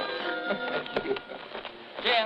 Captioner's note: gentle music; Jim chuckling